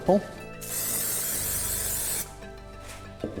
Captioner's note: spray hisses